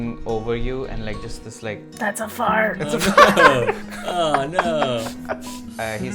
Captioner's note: laughter